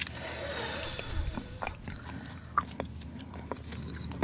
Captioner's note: exhales